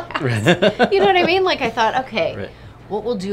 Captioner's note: laughs